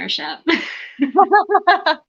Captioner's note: laughter